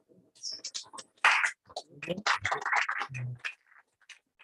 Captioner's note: applause